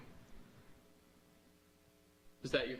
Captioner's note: pause